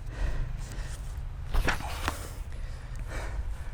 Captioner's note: page turn